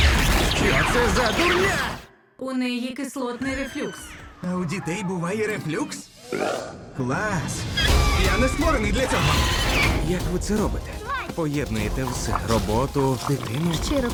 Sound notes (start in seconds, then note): 2.2 robot; 6.2 burps